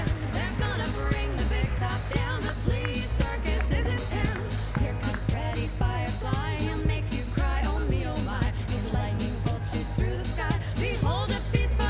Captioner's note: cheering and Applause